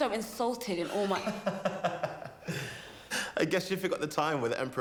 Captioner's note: Alex laughing